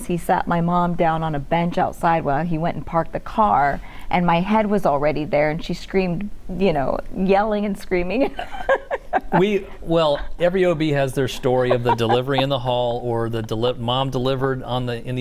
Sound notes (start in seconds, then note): 8.2 laughter